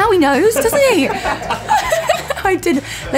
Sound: laughter

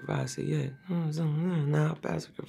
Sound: humming

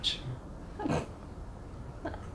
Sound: emma snickers

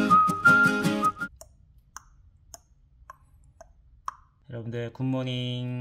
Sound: tick tock

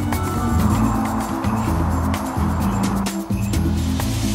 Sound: upbeat music; crickets chirping; upbeat music

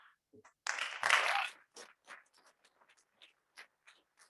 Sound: audience clapping

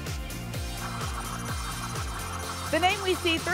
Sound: spinning sounds

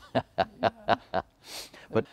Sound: laughs

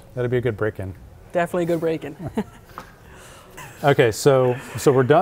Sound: laughs

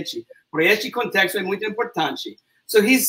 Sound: speaks portuguese

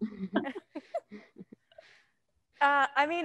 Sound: panelists laughing

